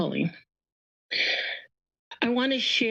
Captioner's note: pause